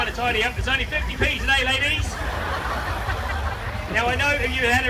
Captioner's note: crowd laughs